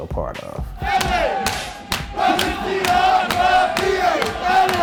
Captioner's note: clapping and chanting